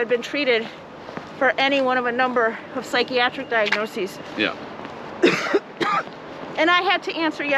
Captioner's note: coughs